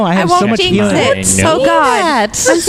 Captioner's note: laughs